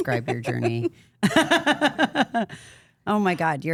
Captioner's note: Steph laughs